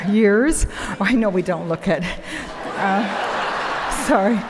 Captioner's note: audience laughing